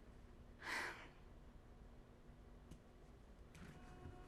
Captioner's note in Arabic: جوان تتنهد